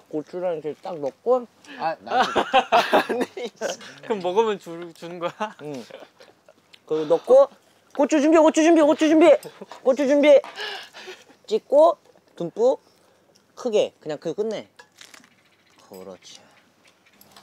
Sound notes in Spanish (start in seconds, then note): 10.5 Jajaja; 16.8 Crujido